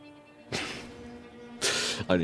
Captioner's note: scoffs